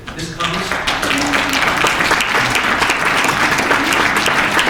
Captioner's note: applause